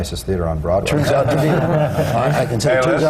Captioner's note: laughter